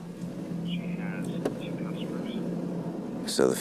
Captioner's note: on phone